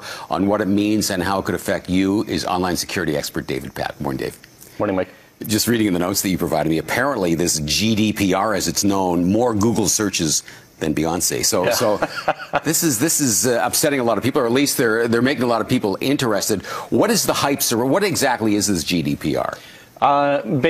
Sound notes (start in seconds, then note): 11.6 laughs